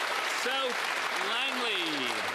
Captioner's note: some Applause